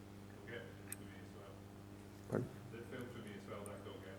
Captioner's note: man speaks softly